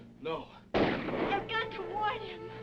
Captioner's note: guns firing